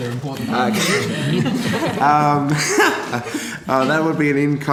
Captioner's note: laughter